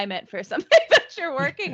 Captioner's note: laughing